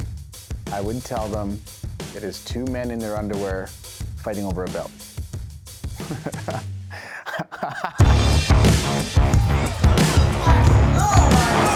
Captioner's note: laughs